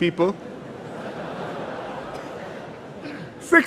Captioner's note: laughter